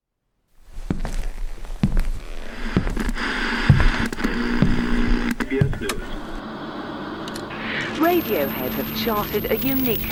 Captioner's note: soundbite of footsteps, tv static